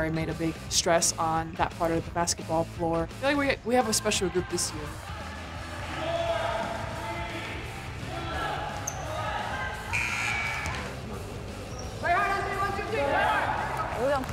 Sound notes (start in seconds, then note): 5.5 players shouting; 9.9 buzzer; 12.8 players chanting